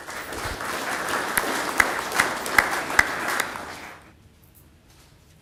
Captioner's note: clapping